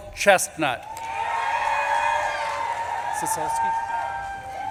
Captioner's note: audience claps and cheers